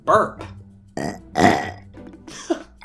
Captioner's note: burp